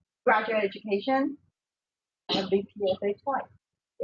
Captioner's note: audio warps